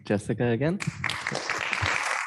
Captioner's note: applause